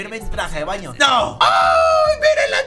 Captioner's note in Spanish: Sorprendido